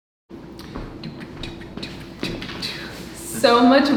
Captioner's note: laughing; humming